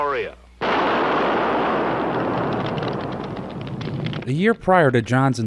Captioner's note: bomp explosion